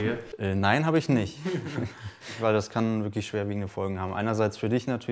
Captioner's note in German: lacht